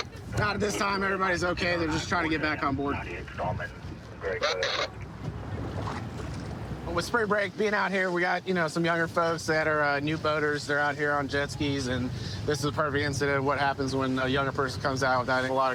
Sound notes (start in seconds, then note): 3.5 radio communication